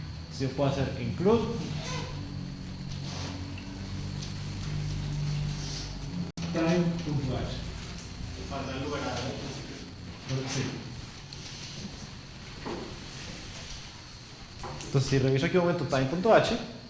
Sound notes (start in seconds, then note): 1.6 squeak; 2.1 bus passes